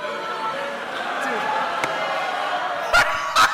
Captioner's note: crowd oohs; laughs